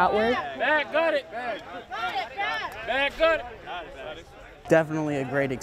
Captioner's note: yelling